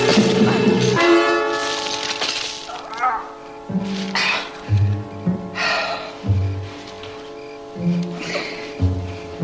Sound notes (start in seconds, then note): 2.6 groans